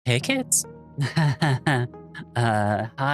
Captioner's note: nervous laughter